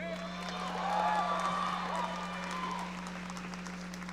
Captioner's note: audience cheering